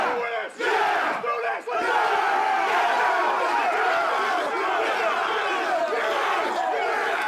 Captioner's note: group chattering